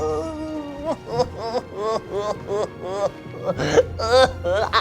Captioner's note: sobbing